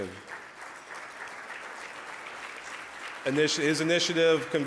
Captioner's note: audience applause